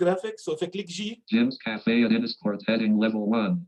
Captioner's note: automated Voice